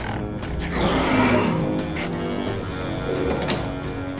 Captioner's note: Gargantus growls